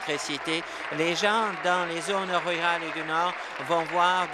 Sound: applause

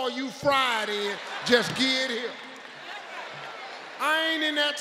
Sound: audience laughing

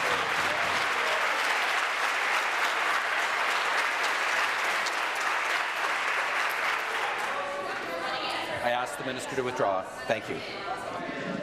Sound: some Applause

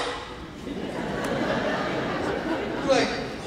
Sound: laughing

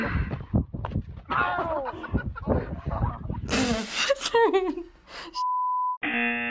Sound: snickers; buzzer

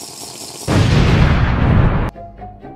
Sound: boooom

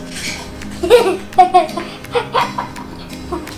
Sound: laughing

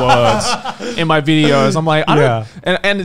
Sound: laughing

